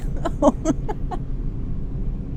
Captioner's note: laughing